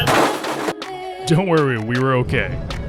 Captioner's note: brakes squealing and bike crashing